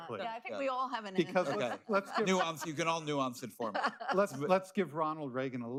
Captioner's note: laughter